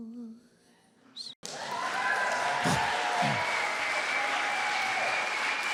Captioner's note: applause